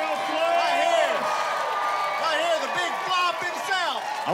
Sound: cheering

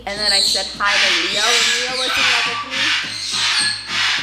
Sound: loud cawing

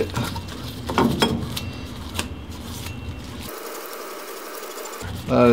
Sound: machine Moving

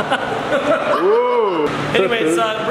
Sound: laughing

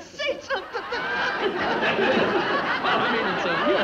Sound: audience laughs

